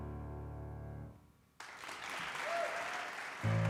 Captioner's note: audience applause